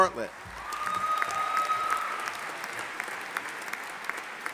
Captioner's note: audience applauding